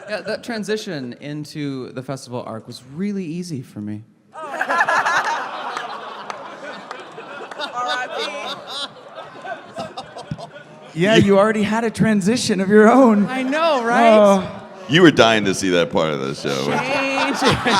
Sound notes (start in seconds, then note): 4.4 laughter; 4.4 torn Audience reaction